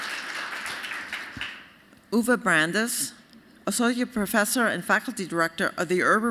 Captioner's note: applause